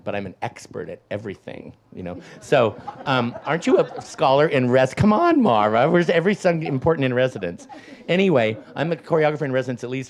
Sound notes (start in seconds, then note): 2.1 audience laughs